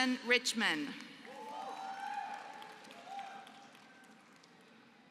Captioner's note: applause